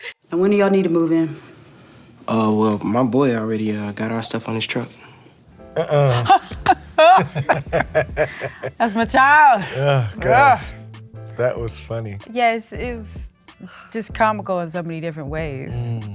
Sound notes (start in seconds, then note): 5.6 laughs; 9.9 sighs